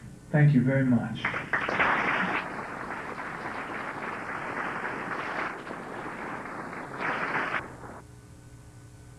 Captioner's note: clapping